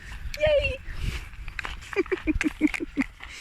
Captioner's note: laugh